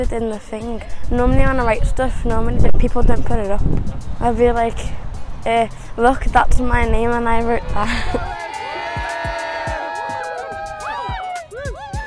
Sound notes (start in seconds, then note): 7.6 cheering